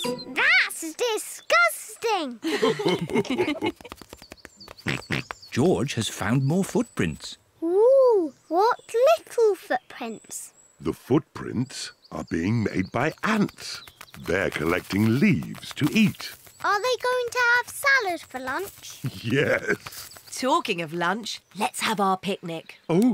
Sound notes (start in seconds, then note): 2.4 mummy and daddy pig laugh; 4.7 oinks; 19.0 laughs